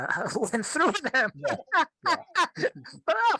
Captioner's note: laughs